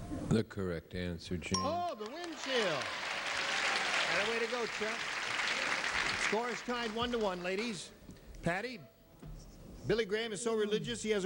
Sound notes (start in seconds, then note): 1.5 bell dings; 1.8 applause